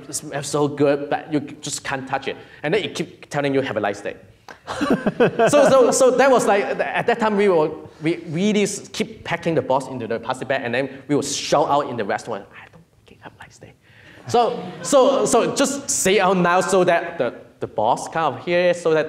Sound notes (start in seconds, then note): 4.6 laughs; 14.2 audience laughing